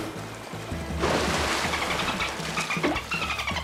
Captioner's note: dolphins chattering